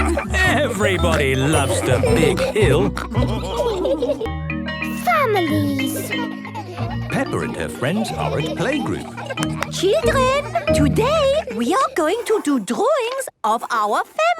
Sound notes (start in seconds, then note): 3.0 all laughing; 9.4 clapping